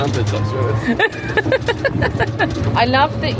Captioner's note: laughing